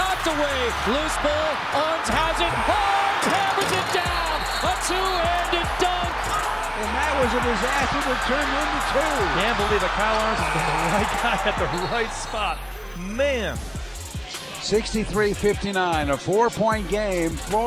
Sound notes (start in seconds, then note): 10.4 laughs